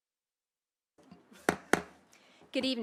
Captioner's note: gavel hitting dais